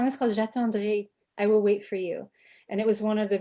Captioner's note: speaking foreign language